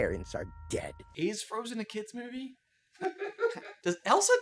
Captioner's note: laughter